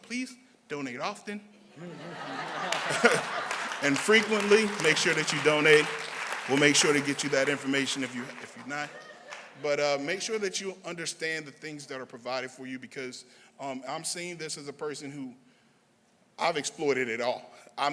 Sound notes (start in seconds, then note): 11.5 laughter